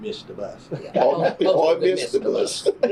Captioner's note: laughter